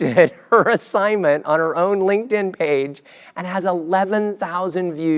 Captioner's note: laugh